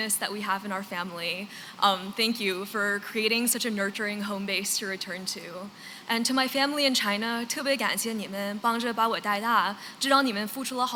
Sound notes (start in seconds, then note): 7.4 non-english